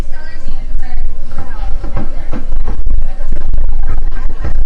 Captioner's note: group murmuring